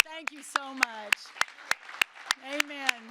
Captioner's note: applause